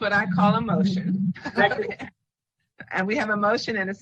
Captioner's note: laughs